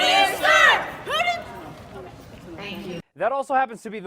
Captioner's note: chanting stops abruptly